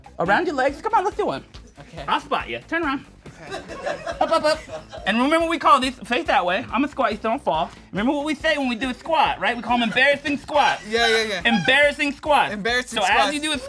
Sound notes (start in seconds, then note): 3.7 crew laugh; 11.0 crew laughs